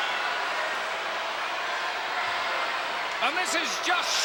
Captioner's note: crowd chattering